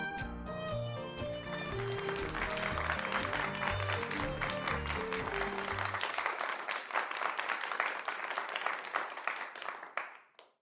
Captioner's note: studio applause